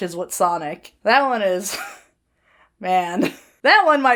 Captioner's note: Hana chuckles